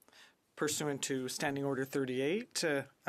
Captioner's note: speaking french